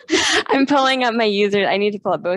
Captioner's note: laughing